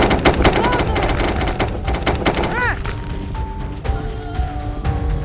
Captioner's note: sounds of struggle